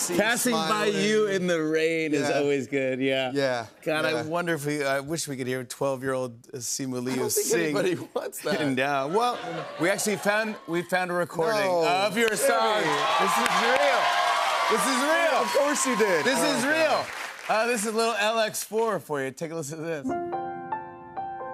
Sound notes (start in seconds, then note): 11.6 cheers and applause; 20.0 piano playing